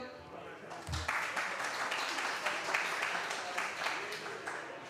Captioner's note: applause